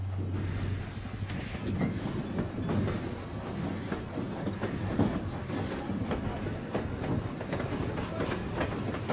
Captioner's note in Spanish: Sonido de los rieles de las vías del tren